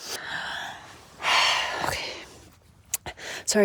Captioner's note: sigh